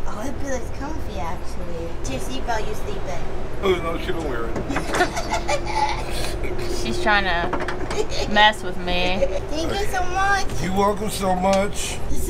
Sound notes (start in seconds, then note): 4.6 laughs